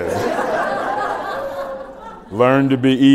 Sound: laughter

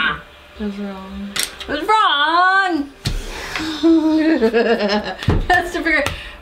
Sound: laugh

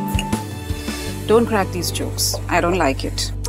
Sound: inhales

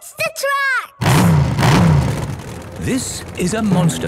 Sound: engines revving

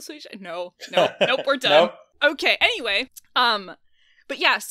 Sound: laughs

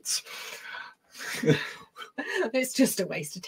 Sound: both chuckling

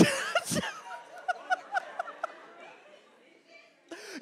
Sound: MatPat laughing

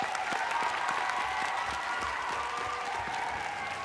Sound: audience cheering

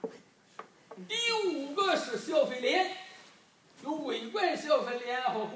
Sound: speaking foreign language

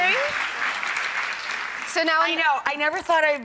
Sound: applause

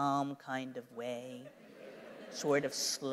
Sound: laughter

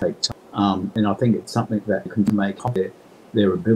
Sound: audio distorting

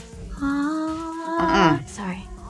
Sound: singing; disapproving Hum

